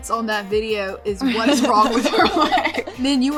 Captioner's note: chuckles